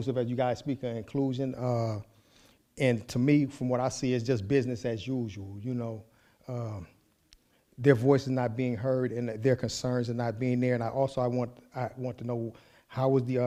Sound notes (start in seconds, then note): none